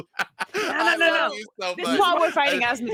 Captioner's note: laughs